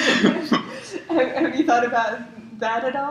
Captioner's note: laugh